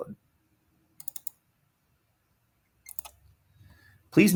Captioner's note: mouse clicks